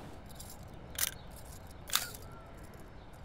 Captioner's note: Cameras clicking